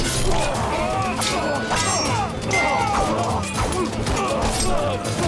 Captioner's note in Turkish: Kılıç sesleri